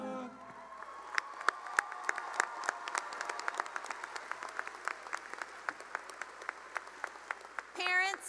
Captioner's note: cheering and applause